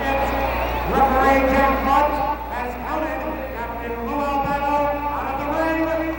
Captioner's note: speaks faintly